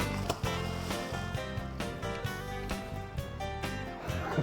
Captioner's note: laughing